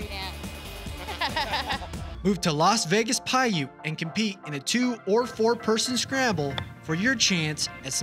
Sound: laughter

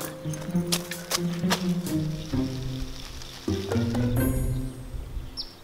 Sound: rustling

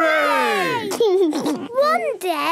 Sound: laughs

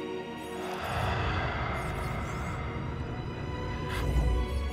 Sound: slow exhale

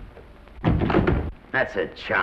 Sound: door closes

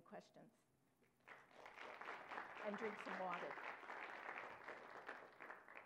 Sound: applause

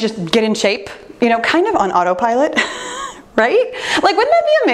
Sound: chuckles

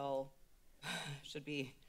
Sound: laughs

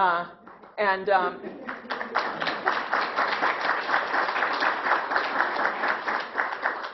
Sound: clapping

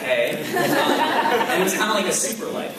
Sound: laughs

